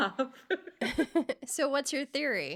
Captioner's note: both laughing